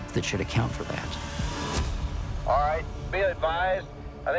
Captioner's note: over walkie